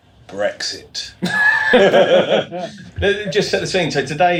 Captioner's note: laughing